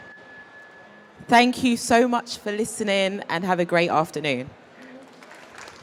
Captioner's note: applause